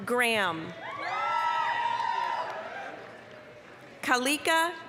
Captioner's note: applause, cheering